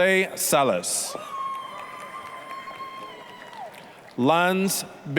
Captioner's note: applause, cheering